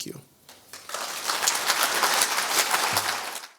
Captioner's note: applause